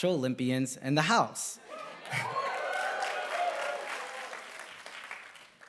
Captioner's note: applause